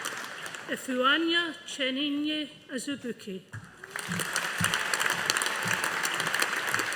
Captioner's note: audience applauding